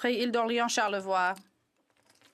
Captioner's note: speaking French